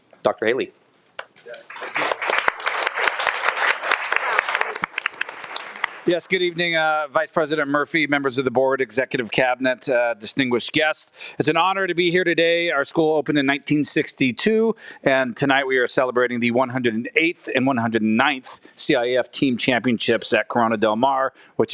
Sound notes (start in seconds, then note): 1.5 audience applauding